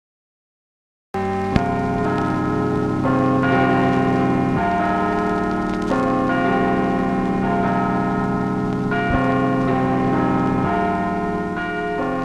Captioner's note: church Bells Chiming